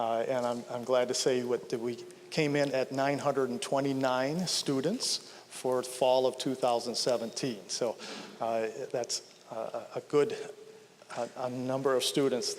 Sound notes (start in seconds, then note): none